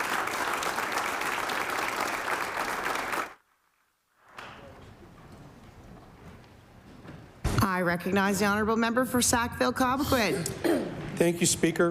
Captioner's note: applause